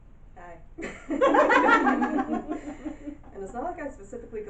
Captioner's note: audience laughing uncomfortably